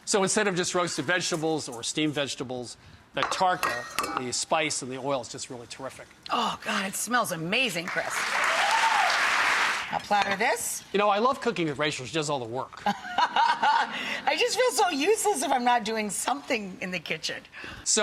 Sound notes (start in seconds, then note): 7.8 audience applauding; 12.8 laughs